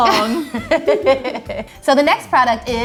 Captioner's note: laughing